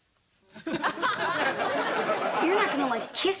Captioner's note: audience laughter